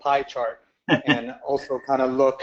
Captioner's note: laugh